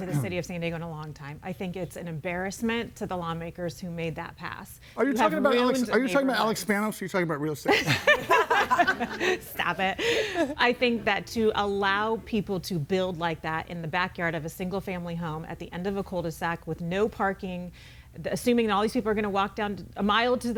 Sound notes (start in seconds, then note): 7.8 everybody laughing